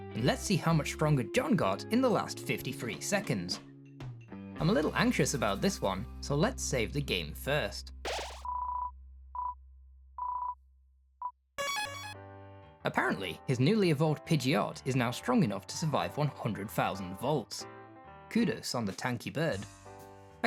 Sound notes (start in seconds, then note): 8.1 Undertale Save Sounds